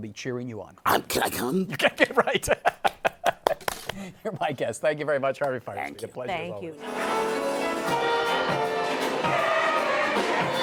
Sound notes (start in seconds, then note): 1.4 laughs; 3.4 applauds